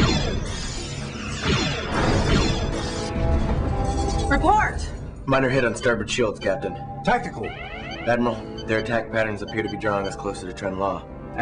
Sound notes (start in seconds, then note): 3.2 explosion; 5.6 alarm